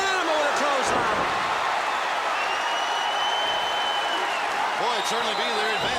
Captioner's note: applause